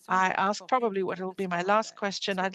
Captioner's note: speaking in French